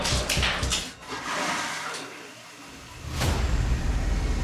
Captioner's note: toilet flushing